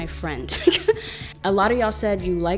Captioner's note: laughs